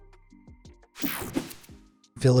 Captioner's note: swoshing